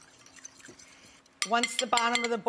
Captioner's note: liquid whisking